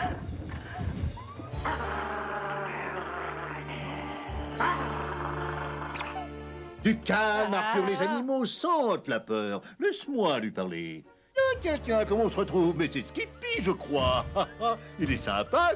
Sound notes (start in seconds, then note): 1.5 growling; 3.9 toy squeaks